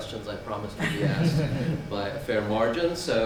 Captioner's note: laughing